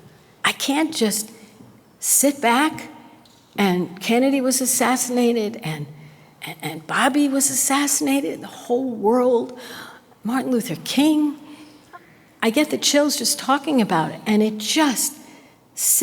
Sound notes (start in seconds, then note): none